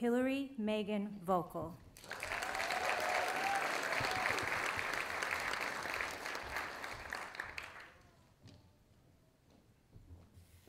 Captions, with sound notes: Hillary Megan Vokel. (audience applauding)